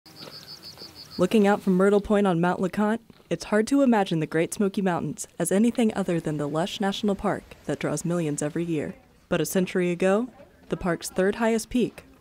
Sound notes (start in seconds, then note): 0.1 birds chirping